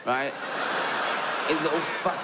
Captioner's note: audience laughs